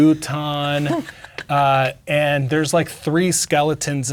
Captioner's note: laughing